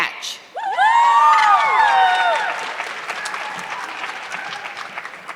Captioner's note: audience clapping